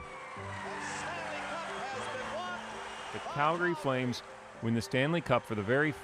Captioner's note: cheers and Applause